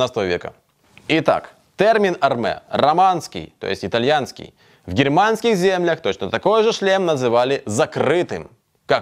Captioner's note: Italian